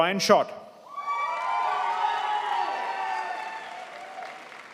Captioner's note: crowd applauds